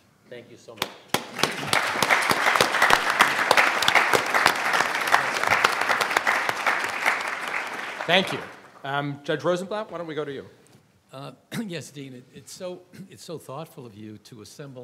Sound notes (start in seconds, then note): 0.8 everyone applauds